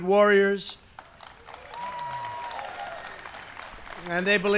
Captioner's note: applause